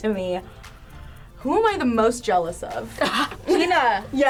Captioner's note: gasps